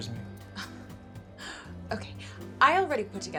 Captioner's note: sighs